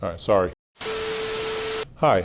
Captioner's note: television test tone & static